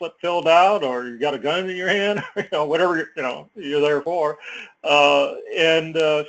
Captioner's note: laugh